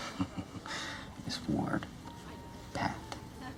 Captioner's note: chuckles